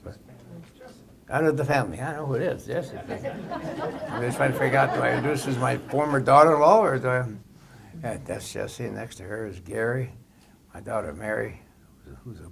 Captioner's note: laughter